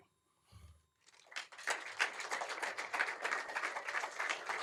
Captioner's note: applause